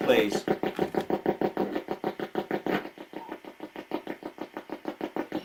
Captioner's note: ghost box buzzing